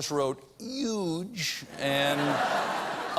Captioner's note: laughter